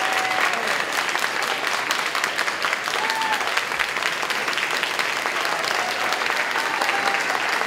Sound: sustained applause, cheering, whistling

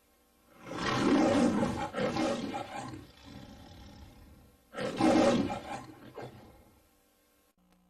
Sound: Leo the Lion roars, purrs, then roars again

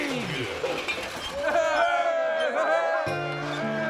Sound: crowd cheering

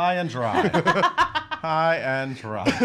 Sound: laughing

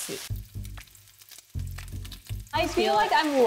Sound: oil popping

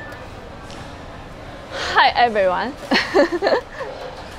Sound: laughs

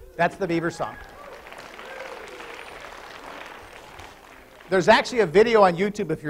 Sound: applause

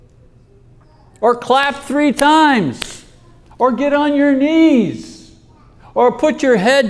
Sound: claps

